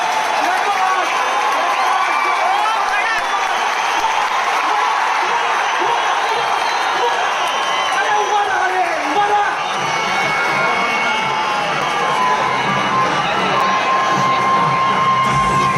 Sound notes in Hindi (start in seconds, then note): 0.0 तालियाँ